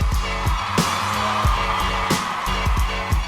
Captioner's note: applause